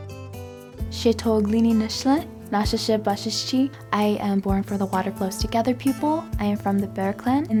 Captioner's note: non-english